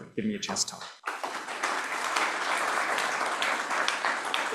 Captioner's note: applause